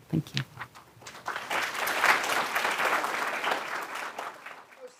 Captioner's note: applause